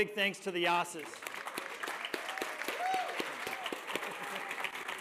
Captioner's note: cheers, applause